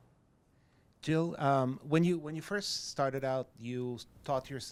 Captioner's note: voiceover